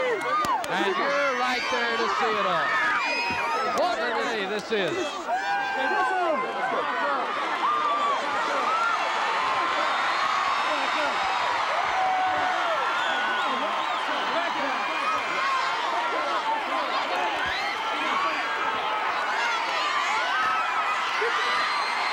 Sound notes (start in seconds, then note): 5.8 audience cheering